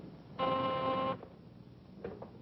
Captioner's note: phone ringing